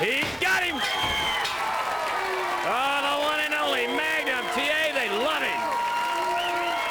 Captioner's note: bell ringing